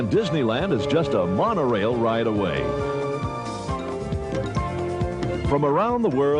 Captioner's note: train whistling